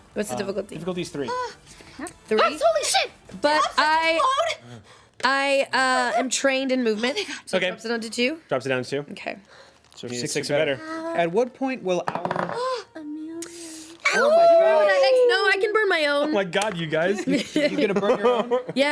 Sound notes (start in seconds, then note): 12.7 rolls dice; 14.1 everyone cheers